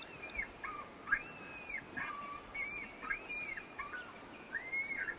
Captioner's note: birdsong and coyote call continues